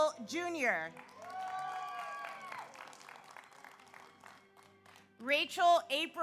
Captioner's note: audience applauds; audience cheers